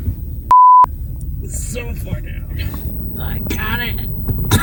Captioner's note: beep; laughs